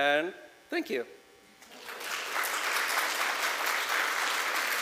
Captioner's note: applause